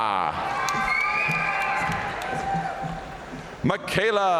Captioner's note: audience cheering and applauding